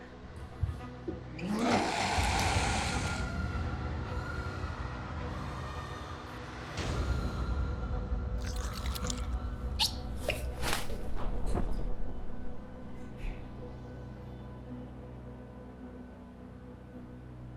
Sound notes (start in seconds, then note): 1.4 creature growls; 5.5 slow tense music